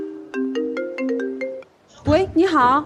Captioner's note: unknown number calls